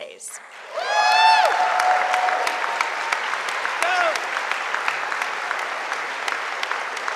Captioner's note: audience applauding; audience cheering